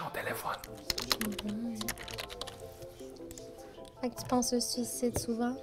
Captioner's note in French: claquement des touches d'un clavier